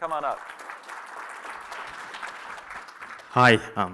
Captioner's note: applause